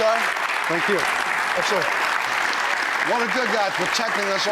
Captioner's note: applause